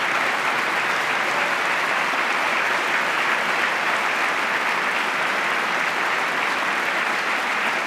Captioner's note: applause